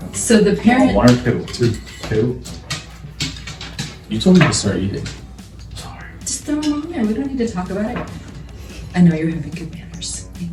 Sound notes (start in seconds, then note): 4.9 whispering